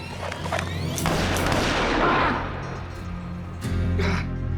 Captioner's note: gunshot fired, mr. gates groans